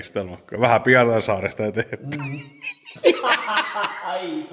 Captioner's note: laughter